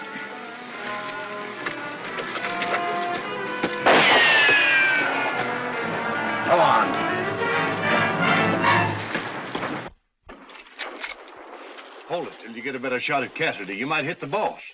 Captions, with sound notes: [ TENSE MUSIC ] [ GUNSHOT ] Go on. Hold it, get a better shot at Cassidy, you might hit the boss.